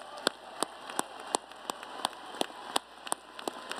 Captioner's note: applause